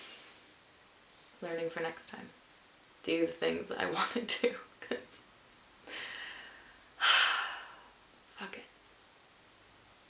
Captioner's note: sighs